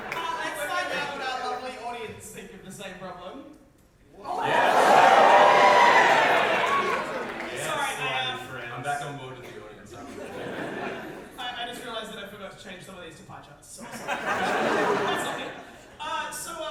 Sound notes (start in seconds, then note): 4.2 big audience reaction